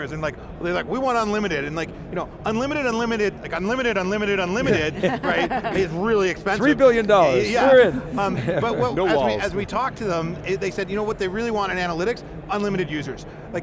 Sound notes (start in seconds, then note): 4.7 laughs